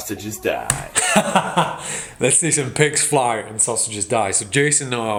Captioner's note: laughs